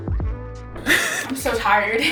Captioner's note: chill music ends; laughs